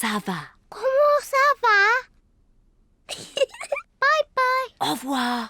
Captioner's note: giggles